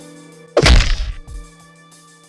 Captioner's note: smack